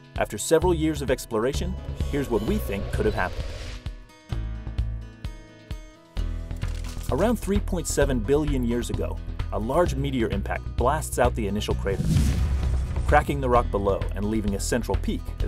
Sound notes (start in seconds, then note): 11.9 boom